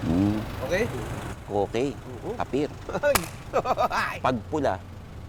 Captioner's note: laughs